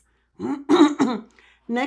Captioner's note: clears throat